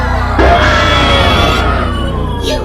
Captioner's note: giratina cry